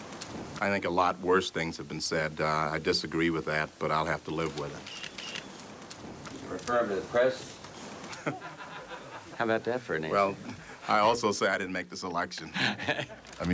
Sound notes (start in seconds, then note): 8.0 group laughing